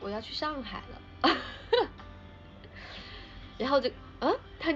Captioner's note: laughs